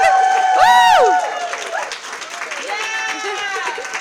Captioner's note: applause